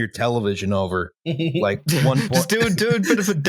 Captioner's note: chuckles